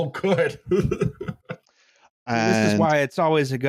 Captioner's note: laughing